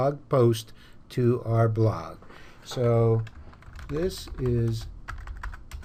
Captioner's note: typing